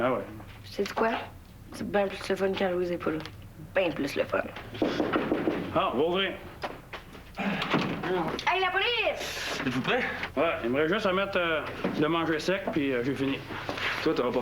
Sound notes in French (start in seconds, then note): 4.8 On frappe à la porte